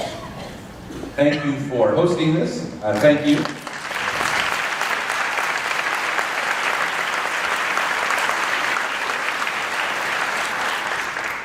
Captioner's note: applause